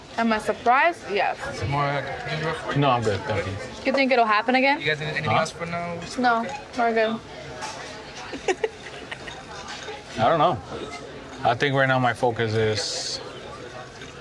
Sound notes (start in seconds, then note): 8.3 Brianna laughs